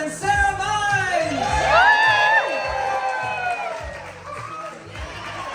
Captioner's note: audience hollers and claps